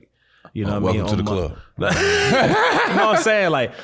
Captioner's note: all laughing